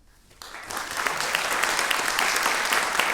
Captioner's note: applause